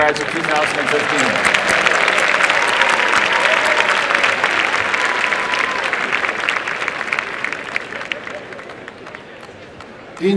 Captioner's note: applause